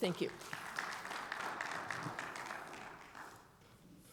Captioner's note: audience applauding